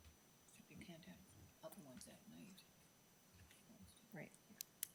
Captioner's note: member whispering